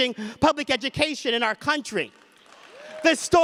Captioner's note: audience applause and cheers